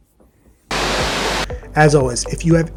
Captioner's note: static hissing